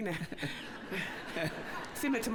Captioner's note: laughter